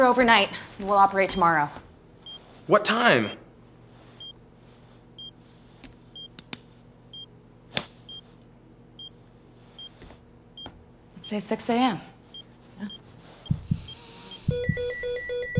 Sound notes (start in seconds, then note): 6.2 pat, pat; 7.7 hard slap; 15.3 heart monitor beeps